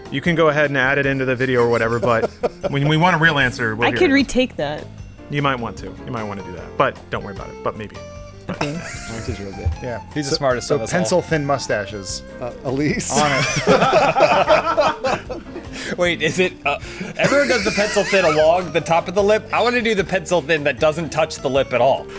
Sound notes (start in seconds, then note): 1.4 laughs; 8.5 laughing; 13.0 laughing; 13.0 laughter